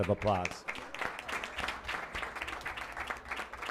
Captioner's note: applause